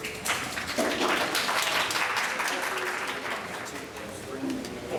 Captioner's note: applause